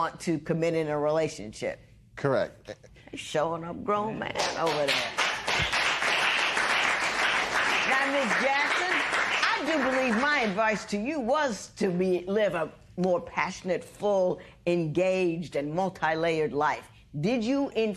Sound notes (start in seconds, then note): 5.9 applause